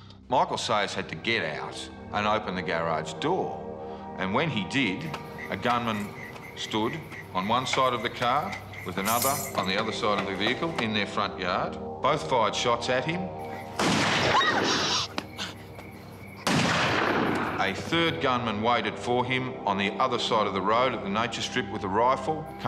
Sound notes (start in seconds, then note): 13.8 gun fires; 14.2 screaming and gasping; 16.4 gun fires